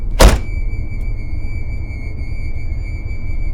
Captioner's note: door closes